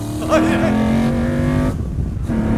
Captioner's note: both laugh